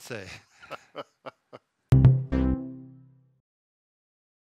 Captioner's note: short upbeat sound